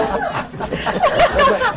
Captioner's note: laughter